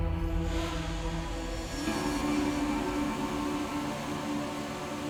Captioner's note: drones buzzing